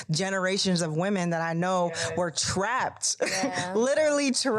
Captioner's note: chuckles